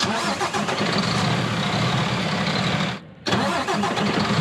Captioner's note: engine revving